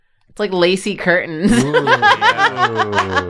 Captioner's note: laughs